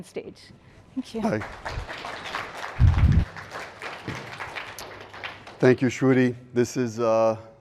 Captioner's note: applause